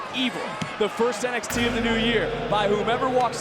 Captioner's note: gong rings